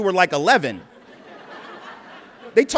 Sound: laughter

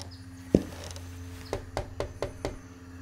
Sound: knocking

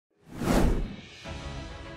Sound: woosh

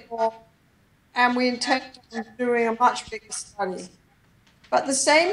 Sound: distorted audio

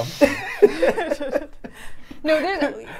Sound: laugh

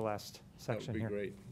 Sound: laughing

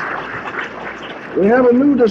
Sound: applause

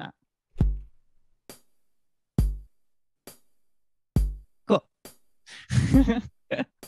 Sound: thump, chick

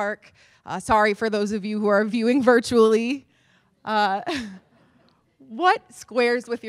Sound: laughter

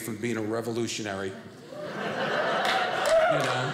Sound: audience cheering

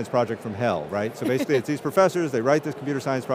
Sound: laughing

